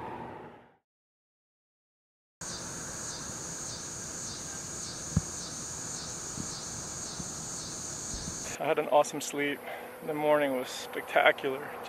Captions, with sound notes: (cicada chirping) I had an awesome sleep. The morning was spectacular.